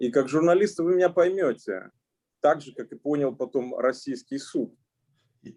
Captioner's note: speaking Russian language